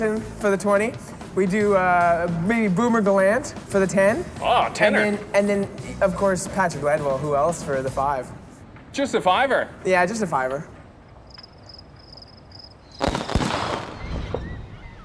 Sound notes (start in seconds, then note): 11.0 crickets chirping